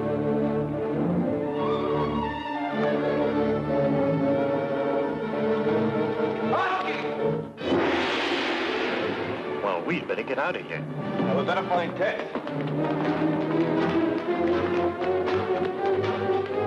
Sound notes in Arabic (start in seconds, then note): 7.3 يصرخ الرجل بلغة أجنبية; 7.6 تحطم الجرس; 13.7 موسيقى مكثفة